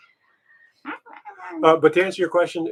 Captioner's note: mimicking chattering